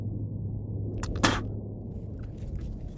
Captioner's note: man spits